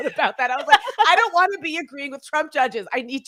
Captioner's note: chuckling